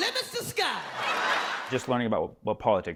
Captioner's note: laughter